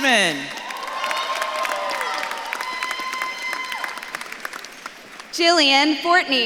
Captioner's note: audience claps and cheers